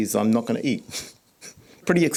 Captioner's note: scoffs